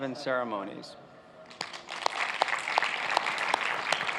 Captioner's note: cheers and applause